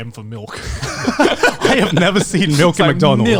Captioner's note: men laugh